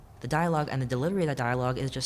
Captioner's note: none